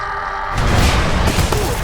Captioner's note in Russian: громкий крик; хренак